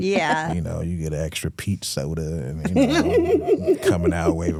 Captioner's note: hosts laughing